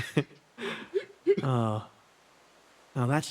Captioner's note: laughs; Etete Sigh